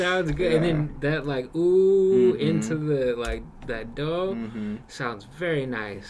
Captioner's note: non-english speech